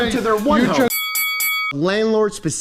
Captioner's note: dinging